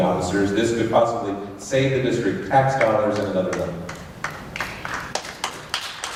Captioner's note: light applause